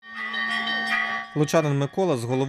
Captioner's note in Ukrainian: Звук дзвонів